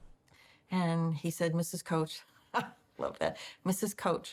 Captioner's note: laughs